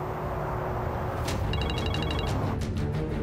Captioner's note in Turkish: Telefon çalıyor